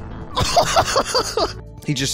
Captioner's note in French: rire